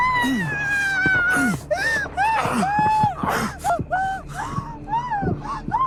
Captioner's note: woman crying; man grunting